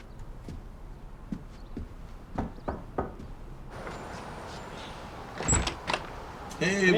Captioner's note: sound of knocking at door and door opening